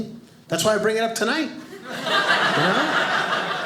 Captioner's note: audience laughing